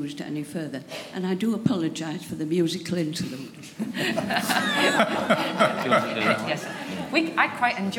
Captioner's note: laughter